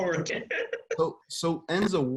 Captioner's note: laughs